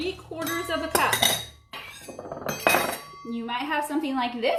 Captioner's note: materials clanging